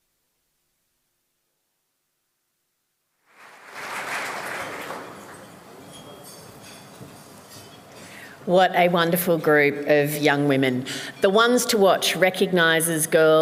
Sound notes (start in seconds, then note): 3.2 applause